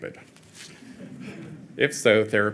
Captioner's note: audience chuckling